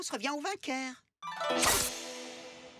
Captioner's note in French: bruit d'épée